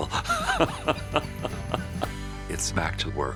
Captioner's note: laughing